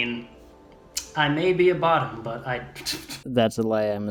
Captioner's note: laughs